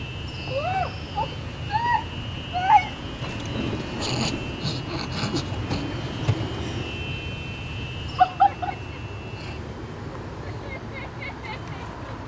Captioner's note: laughter